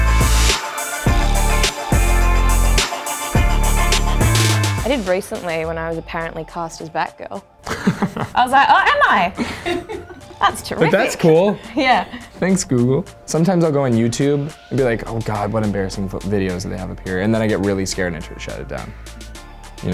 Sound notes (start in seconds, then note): 0.0 upbeat pop music; 7.6 laughing; 7.6 laughs